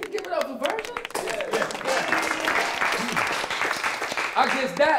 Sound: applause

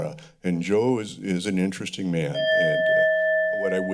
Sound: alarm ringing

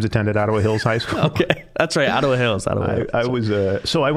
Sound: laughing

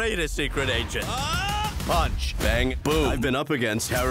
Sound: yells

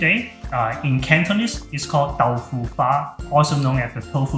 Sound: in foreign language

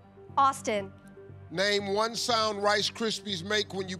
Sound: none

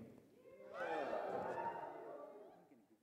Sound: audience cheers

